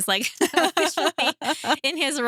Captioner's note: laughs